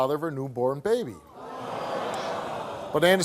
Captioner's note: audience gasping